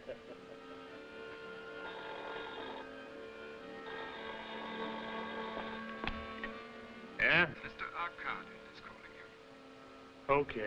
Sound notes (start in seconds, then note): 1.8 phone ringing